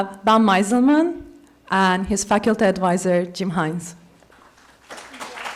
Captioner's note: applause